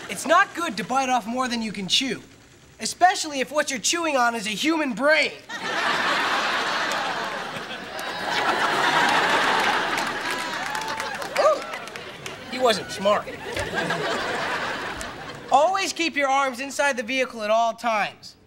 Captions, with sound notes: It's not good to bite off more than you can chew, especially if what you're chewing on is a human brain. [laughing] Oh, he wasn't smart. Always keep your arms inside the vehicle at all times.